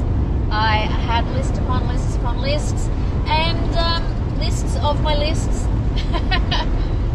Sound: laughs

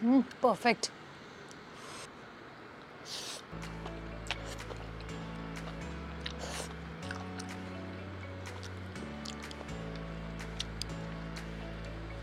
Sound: asmr eating

